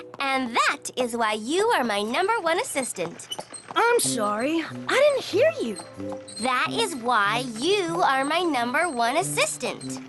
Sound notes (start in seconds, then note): none